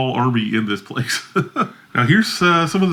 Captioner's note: laughs